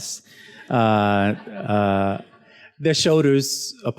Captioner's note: student laughs